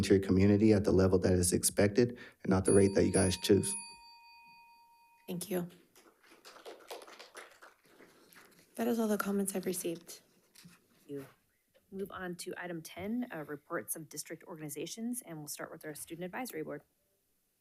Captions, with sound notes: to your community at the level that is expected and not the rate that you guys choose. - Thank you. (attendees clapping) That is all the comments I've received. - Thank you, move on to Item 10, Reports of District Organizations. And we'll start with our Student Advisory Board.